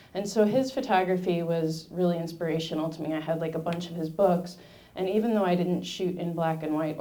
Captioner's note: none